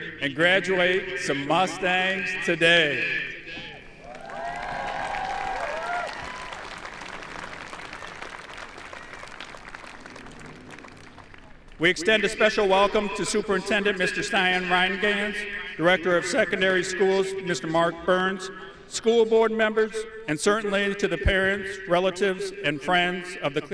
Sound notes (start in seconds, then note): 4.0 audience cheering; 4.0 audience applauding